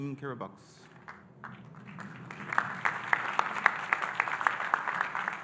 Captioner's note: audience applauding